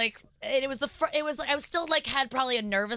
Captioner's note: stuttering